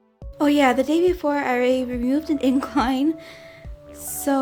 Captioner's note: giggles